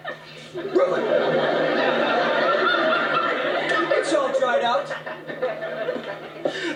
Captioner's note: laughter